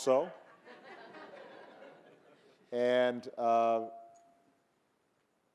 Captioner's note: audience laughing